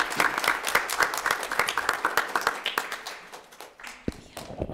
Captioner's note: everyone clapping